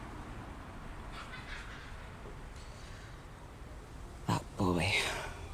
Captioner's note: child laughing